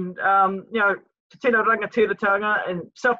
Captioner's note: speaks in foreign language